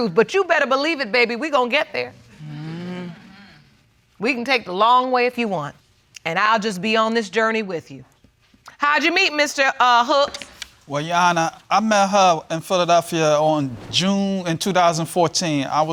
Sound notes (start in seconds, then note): none